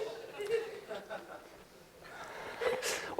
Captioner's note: laughter